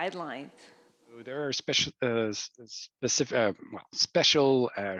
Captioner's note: stammering